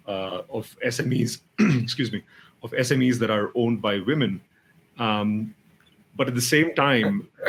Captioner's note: clears throat